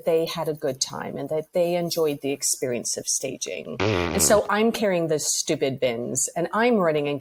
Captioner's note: blows raspberry